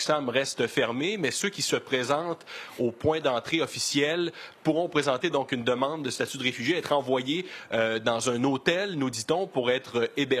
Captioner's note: speaking French